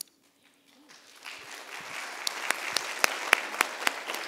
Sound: applause

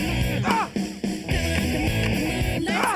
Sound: grunts

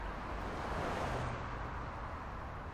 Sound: traffic hums

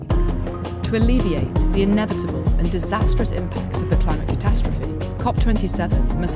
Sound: voiceover

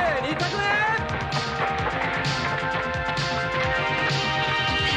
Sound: applause

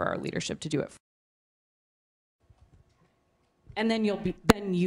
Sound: muted

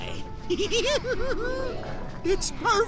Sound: giggling

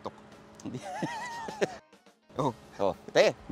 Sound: laughs

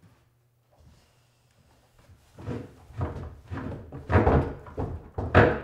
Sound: cabinet sliding on floor

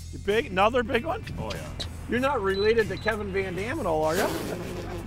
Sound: pppffft

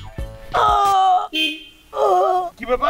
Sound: screaming in pain

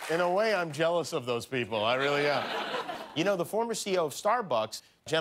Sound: laughter

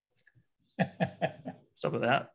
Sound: laughs

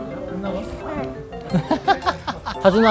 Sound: hahaha

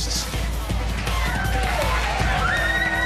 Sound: cheering

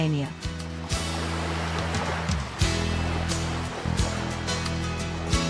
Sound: water flowing

